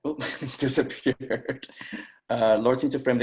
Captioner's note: laughing